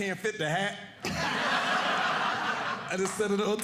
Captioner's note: audience laughing